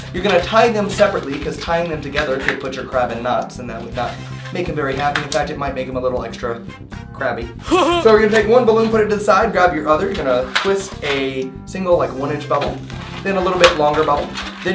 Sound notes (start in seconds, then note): 7.6 haha